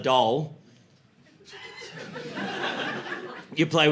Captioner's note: laughter